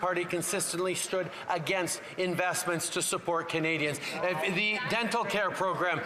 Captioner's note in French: voix de l'interprète